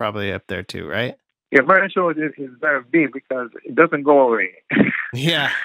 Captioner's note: laughter